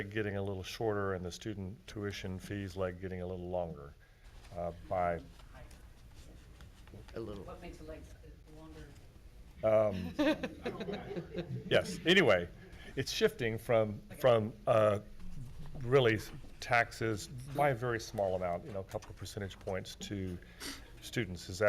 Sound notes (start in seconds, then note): 9.7 chuckling